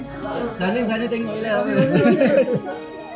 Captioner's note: laugh